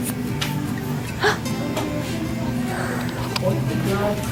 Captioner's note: mom gasps